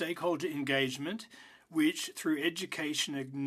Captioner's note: speaking French